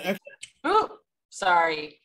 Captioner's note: exclaims